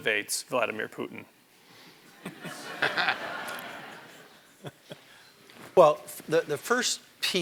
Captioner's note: laugh